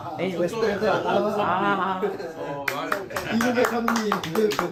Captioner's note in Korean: 박수